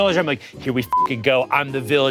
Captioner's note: beep